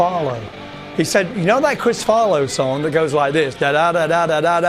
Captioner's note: vocalizes